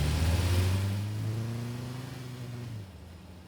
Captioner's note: car departs